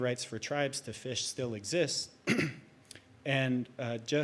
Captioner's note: clears throat